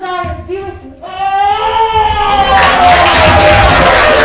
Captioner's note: Charles shouting; crowd applauding